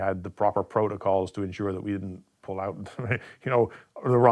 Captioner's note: laughs